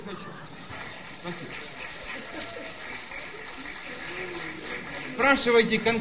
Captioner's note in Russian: аплодисменты